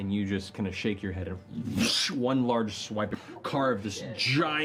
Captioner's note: hwhoosh